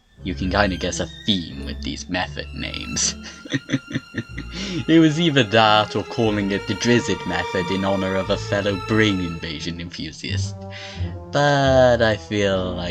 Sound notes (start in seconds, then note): 3.0 chuckles